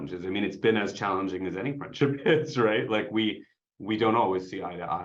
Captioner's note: chuckles